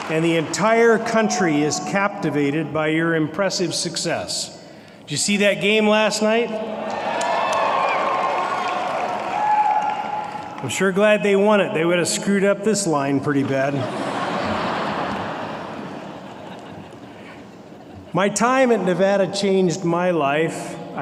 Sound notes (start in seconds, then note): 0.0 applause; 6.8 cheering; 13.4 laughter